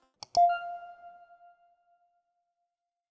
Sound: logo dings

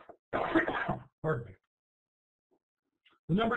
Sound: coughs

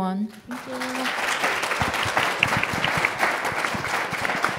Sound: audience applauding

